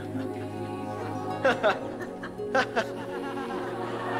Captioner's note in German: Studenten lachen